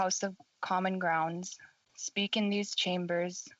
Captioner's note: speaking FRENCH